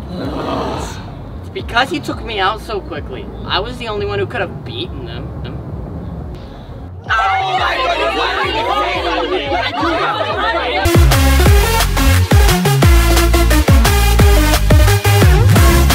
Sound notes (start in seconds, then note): 0.0 everyone groans; 6.9 everyone arguing; 10.8 victory music continues